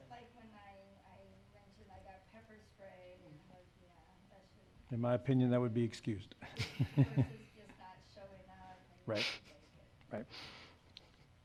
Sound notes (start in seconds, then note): 6.4 laughs